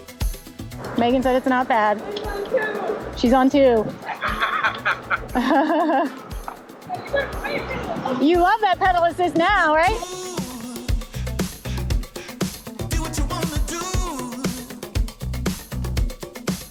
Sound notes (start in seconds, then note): 4.0 laughter; 10.4 jazz music